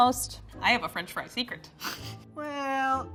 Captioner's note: chuckles